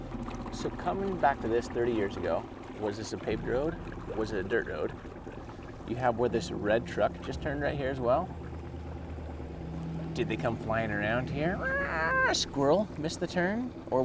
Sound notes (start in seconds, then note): 11.6 screeching